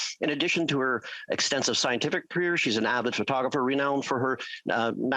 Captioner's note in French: voix de l'interprète